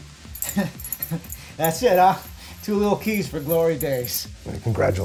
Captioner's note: laughs